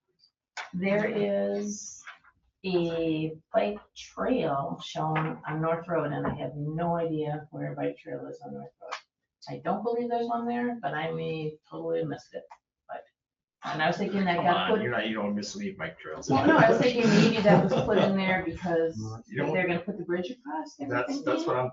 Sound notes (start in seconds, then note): 16.0 group laughing